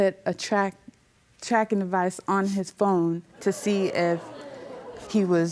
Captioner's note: audience gasps